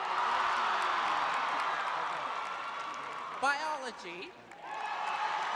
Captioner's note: cheering